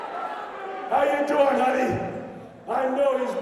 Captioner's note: crowd chatter